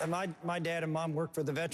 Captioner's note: applause